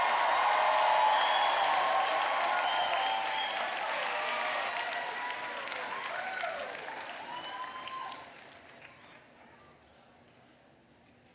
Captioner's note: cheers and applause